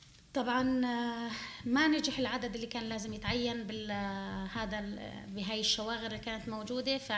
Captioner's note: speaking arabic